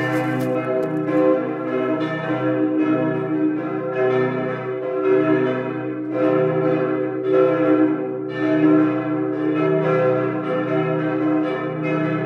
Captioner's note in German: Glockengeläut